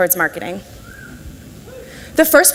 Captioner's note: audience whistles and shouts